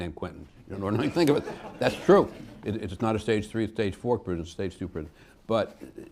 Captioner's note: laughter